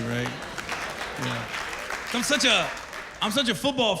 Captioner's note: applause